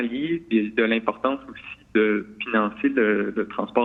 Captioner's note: speaks French